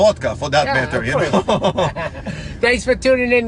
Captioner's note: laughing